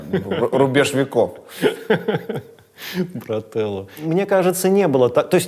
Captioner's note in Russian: смеётся